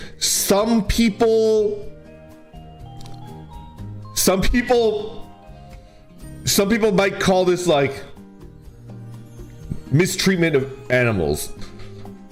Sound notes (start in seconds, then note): 2.8 hesitant